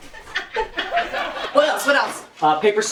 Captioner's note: laughter